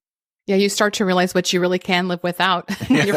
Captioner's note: chuckles